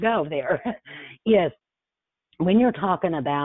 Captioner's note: chuckles